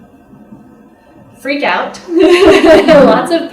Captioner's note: laughter